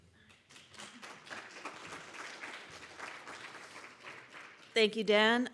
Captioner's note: audience applauding